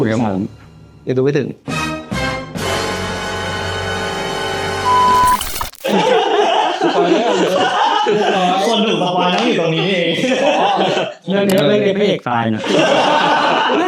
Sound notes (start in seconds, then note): 12.6 laugh